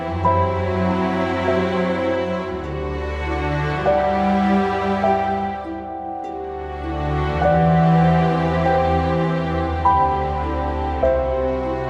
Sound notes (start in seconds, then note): none